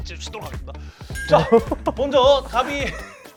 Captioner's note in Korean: 웃음